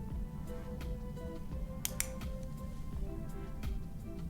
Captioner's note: pens clicking